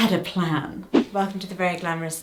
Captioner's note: screen whooshing